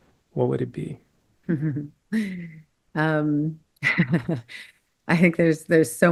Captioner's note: laugh